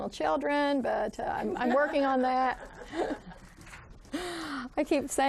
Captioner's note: students laughing